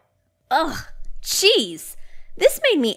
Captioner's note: scoffs